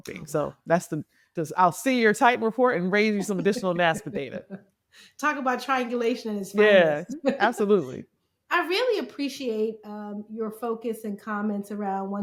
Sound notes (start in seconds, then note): 6.6 chuckling